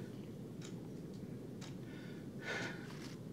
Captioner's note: clock ticking